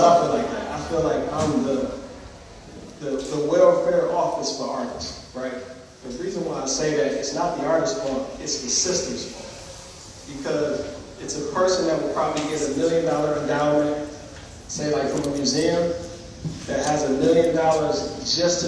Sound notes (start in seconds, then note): none